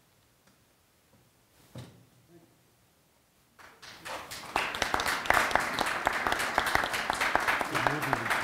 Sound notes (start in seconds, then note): 3.6 audience applauding